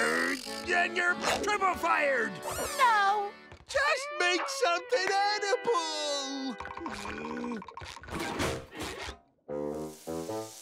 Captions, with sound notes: Then you're triple fired! Oh. Just make something edible. [groaning]